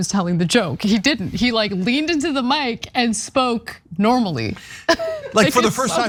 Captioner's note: laugh